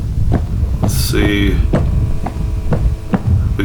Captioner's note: footsteps